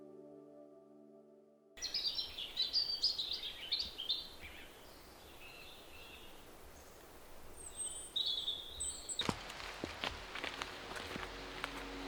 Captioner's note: bird song